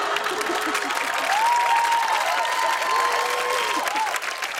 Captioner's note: laughter and applause; cheers and applause